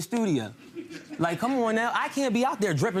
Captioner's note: crowd laughing